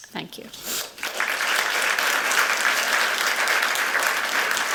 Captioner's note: applause